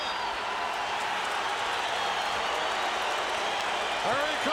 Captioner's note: audience cheering